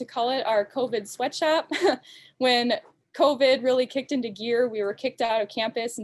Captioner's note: laughs